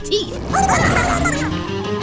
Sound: squeaking

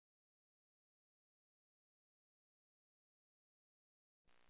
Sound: silence

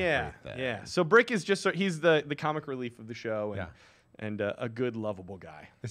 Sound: none

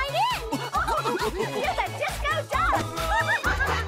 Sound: all laughing

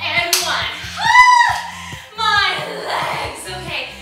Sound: screams excitedly

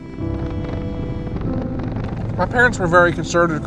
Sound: flag rustling

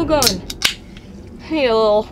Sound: popcan clicks and fizzes

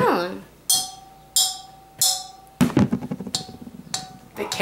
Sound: spoon clinks; carrot taps

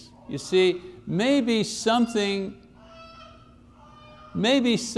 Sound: baby crying

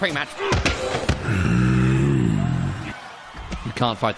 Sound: growls

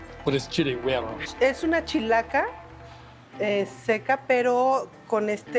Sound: speaking Spanish

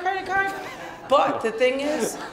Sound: laughing

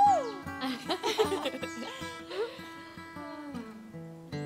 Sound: chuckling

